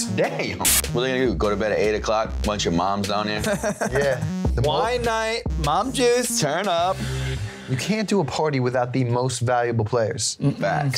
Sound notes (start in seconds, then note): 3.4 laughing